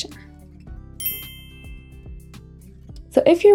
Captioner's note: bells chiming